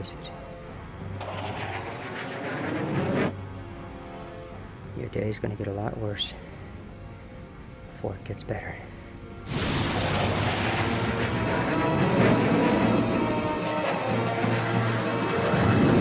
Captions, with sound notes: (intense, dramatic music) (aircraft whirring) Your day is gonna get a lot worse before it gets better. (intense, dramatic music) (aircraft whirring)